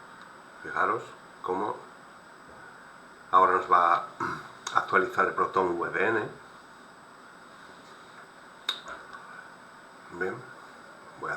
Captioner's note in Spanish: carraspeo